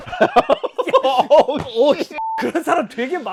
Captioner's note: thump